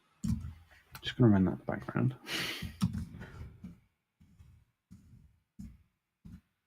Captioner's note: chuckles